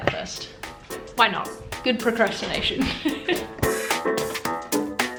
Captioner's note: laughs; upbeat music